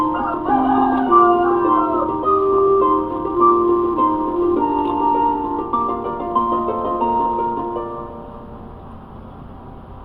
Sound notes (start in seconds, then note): 0.0 rooster crowing; 5.3 chicken clucking